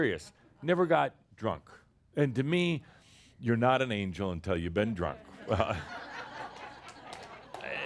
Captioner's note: laughter